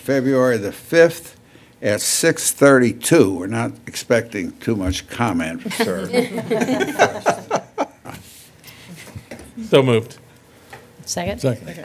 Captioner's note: laughter